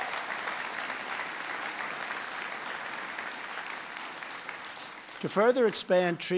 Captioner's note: applause